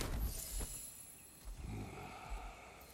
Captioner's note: grunt